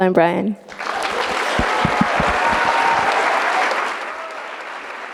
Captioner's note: audience applauding